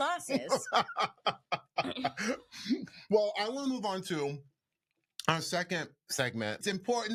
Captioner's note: laughs